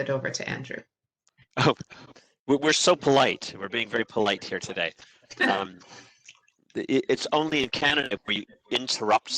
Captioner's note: chuckle